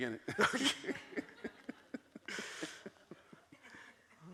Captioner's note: both laugh